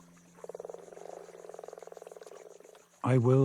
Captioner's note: croaking